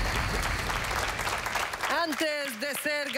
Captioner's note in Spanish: Aplausos